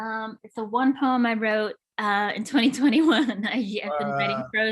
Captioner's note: laughs